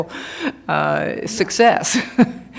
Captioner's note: laughter